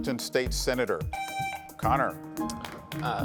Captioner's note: buzzer buzzes